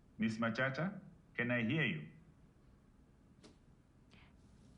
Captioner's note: none